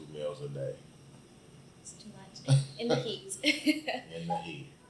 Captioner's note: laughs